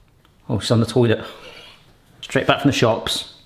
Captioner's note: snickers